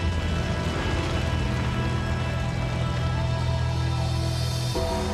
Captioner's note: flames roaring